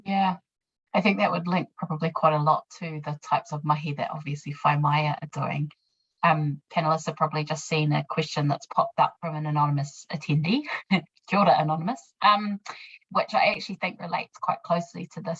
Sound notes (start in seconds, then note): 11.6 speaking in foreign language